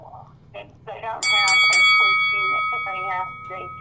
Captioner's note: bell dinging